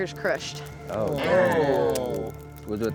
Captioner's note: all groaning